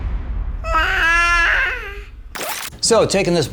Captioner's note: babbling